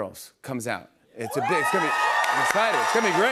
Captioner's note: cheers and applause